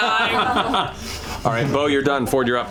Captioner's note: laughter